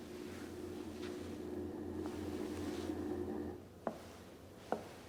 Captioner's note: machine whirring